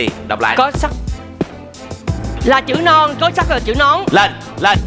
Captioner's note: rising tone